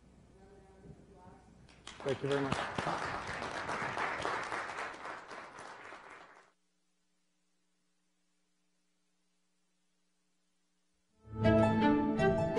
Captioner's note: clapping